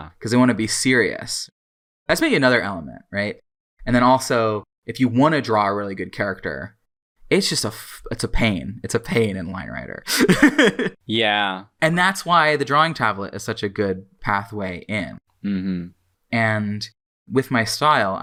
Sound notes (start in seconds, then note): 10.1 laughs